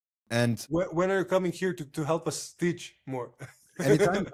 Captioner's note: laughs